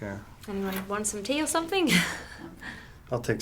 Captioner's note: chuckles